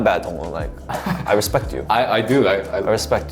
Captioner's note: laughing